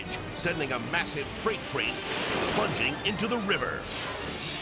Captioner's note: water splashes; screen whooshes